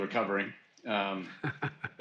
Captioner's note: laughs